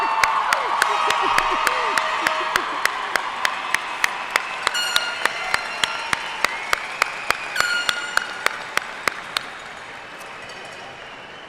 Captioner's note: applause